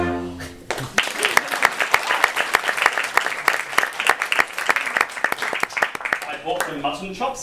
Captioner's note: applause